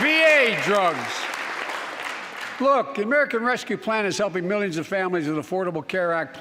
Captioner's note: applause